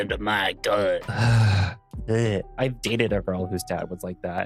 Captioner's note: sigh